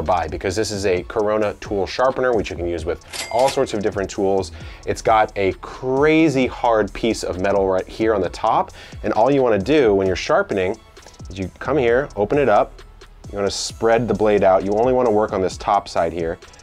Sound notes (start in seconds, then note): 3.0 cash register rings